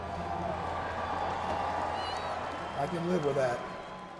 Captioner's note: audience cheers